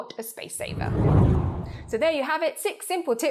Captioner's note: air whooshes